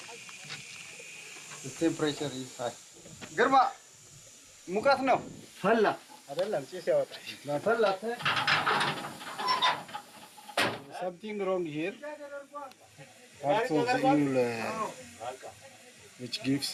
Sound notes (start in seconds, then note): 3.3 speaking in foreign